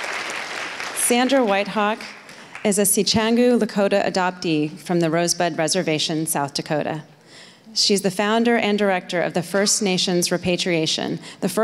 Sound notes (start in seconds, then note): 2.7 foreign speaking